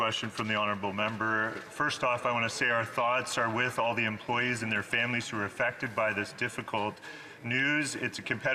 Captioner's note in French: voix de l'interprète